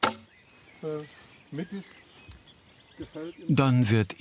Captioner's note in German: Leise Gesprächsfetzen